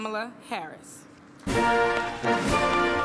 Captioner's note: applause